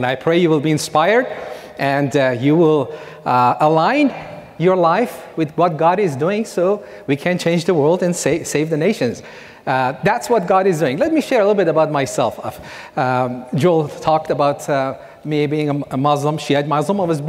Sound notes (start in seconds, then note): none